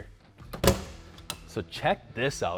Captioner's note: door creaking